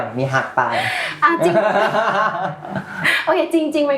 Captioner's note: laughs